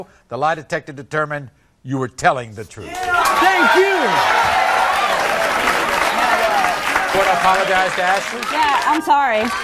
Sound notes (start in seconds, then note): 2.8 audience cheering